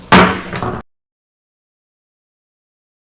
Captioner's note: gavel bangs